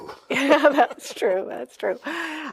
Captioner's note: laughs; chuckles